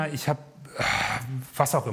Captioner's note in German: Er seufzt